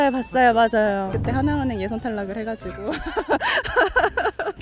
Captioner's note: laughing